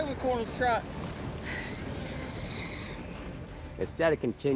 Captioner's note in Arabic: ضربات حوافر